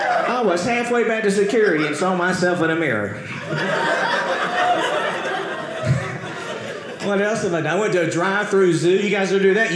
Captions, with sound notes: I was halfway back to security and saw myself in a mirror. (audience laughing) What else did I do? I went to a drive-thru zoo. You guys ever do that?